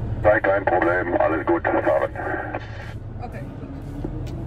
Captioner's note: German pilot talking